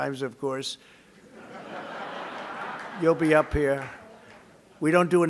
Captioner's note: laughter